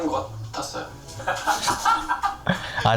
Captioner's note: laughing